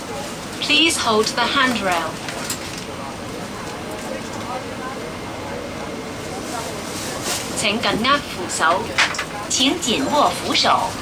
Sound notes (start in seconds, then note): 7.2 Cantonese